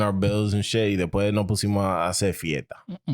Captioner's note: speaking In Foreign Language